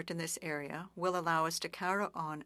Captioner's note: speaking French